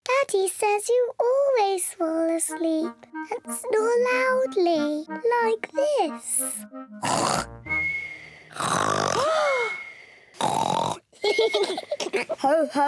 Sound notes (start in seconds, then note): 6.8 snores loudly; 8.5 lady pigs gasp; 10.3 continues to snore; 11.2 both giggle